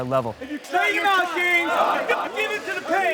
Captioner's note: instructor yelling